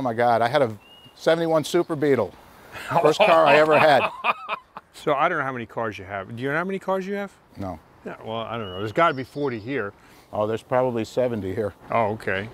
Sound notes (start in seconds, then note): 2.8 laughing